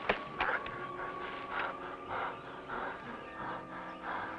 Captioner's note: panting